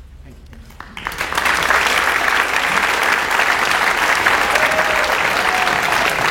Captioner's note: audience cheers and applauds